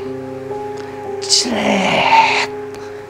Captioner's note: makes a dramatized sound